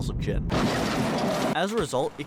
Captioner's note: crashing sounds